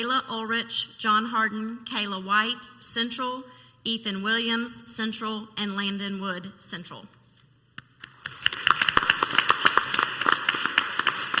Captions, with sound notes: Layla Ulrich, John Harden, Kayla White Central, Ethan Williams Central and Landon Wood Central. (clapping)